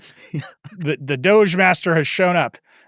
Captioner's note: chuckles